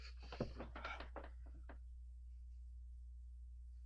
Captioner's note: David gasps